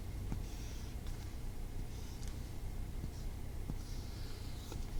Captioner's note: writing sound